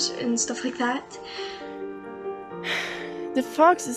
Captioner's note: sigh